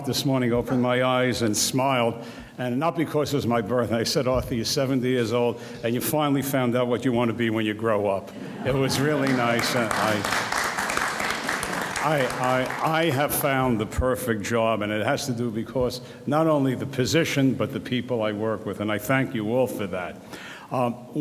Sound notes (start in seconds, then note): 8.3 audience laughs; 10.8 audience applauds